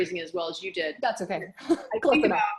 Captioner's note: laughs